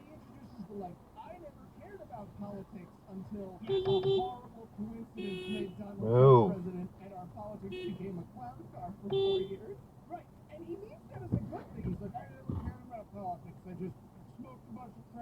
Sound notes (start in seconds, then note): 3.7 beepbeepbeep